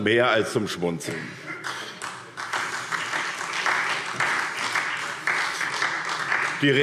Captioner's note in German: Beifall SPD